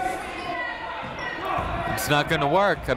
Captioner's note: people shouting in the crowd